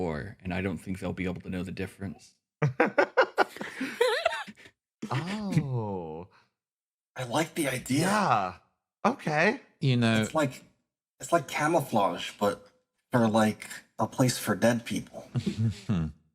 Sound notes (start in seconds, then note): 2.7 laughs